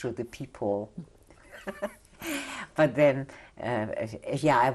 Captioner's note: laughs